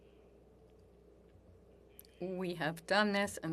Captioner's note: speaking French